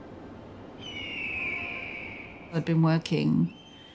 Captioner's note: slow atmospheric music; bird screeching